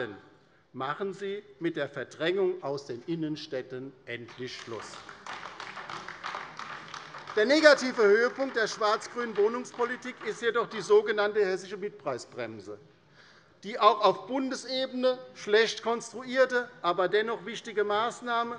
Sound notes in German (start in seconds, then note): 4.2 Beifall bei der LINKEN